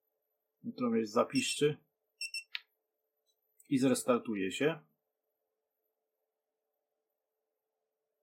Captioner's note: a beep